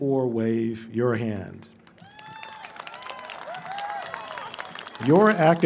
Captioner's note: applause